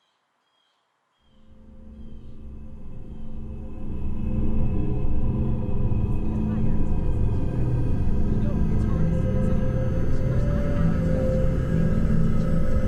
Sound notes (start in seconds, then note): 1.5 ominous music; 6.6 family chattering